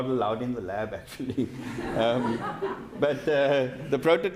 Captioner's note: audience laughing